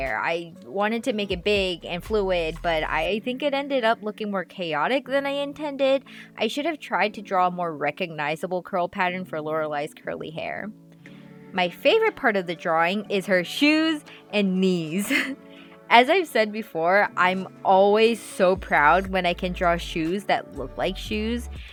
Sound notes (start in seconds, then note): 15.0 laugh